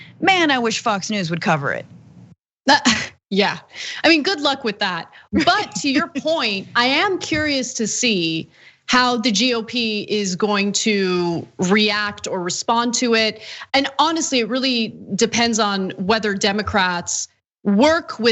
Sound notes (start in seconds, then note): 5.3 laugh